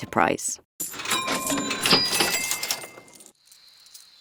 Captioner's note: cash registers ringing